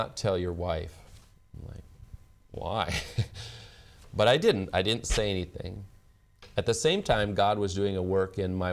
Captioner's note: laughs